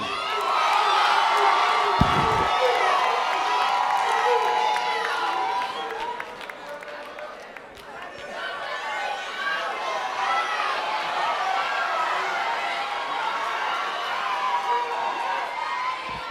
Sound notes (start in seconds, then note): 1.5 cheering and Applause